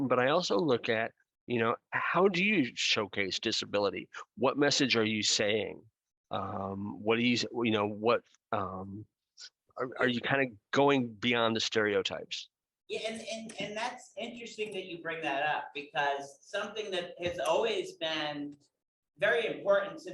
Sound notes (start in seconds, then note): none